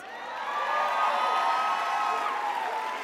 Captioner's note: crowd cheers